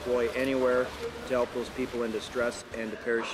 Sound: voiceover

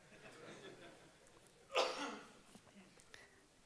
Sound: laughing

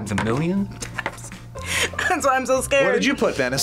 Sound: laughs

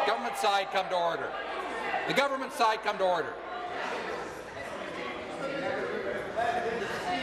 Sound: voice shouting

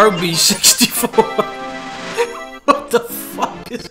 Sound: laughs

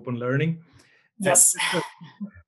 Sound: laughs

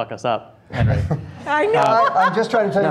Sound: laughing

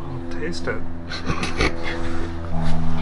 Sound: laughter

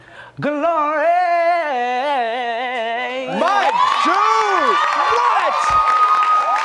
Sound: cheers and applause

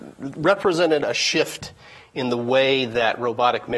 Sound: none

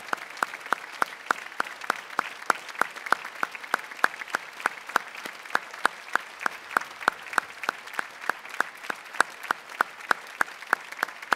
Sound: applause

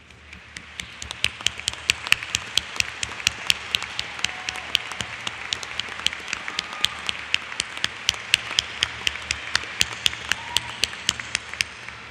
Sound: applause

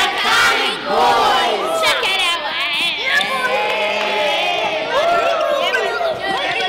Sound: cheering

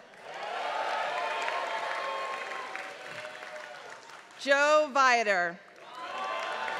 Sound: applause

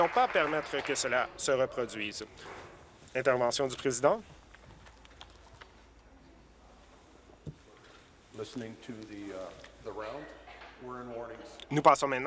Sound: applause

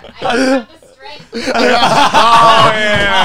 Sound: all laughing

